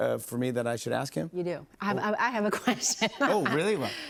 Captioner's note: laughs